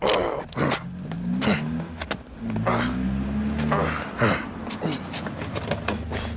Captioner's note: engine rumbling; men grunting